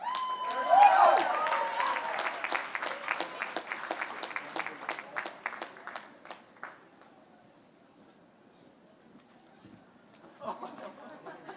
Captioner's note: applause; laughter